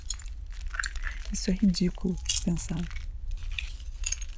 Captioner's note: sound of eggshells falling on the floor and being broken